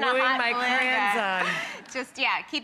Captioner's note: laughs